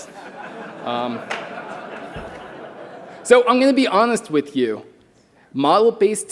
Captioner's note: laughter